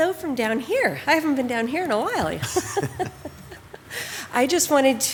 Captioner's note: laughs